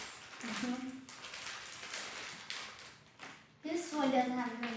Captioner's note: candy bag rustles